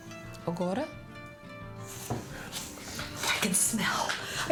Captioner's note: speaks in foreign language